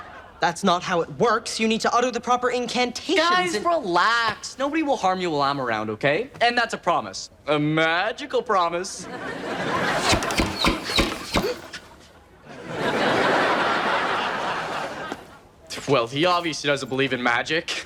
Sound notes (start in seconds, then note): 9.0 audience laughs; 9.8 rapid thumps; 12.5 audience laughs